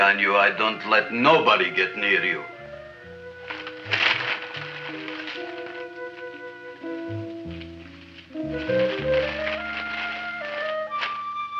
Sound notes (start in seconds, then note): 3.2 bag rustling